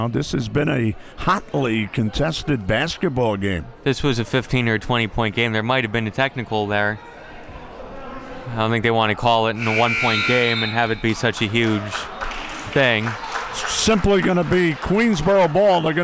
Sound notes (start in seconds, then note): 9.5 referee blows whistle; 9.7 clock buzzes; 13.2 crowd clapping